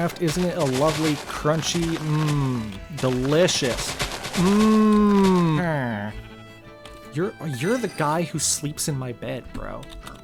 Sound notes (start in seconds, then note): 5.6 Mimicking the Villager noise